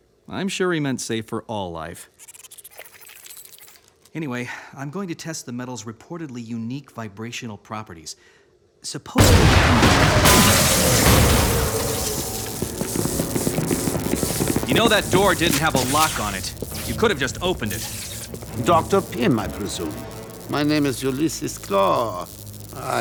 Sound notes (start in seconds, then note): 9.0 loud crash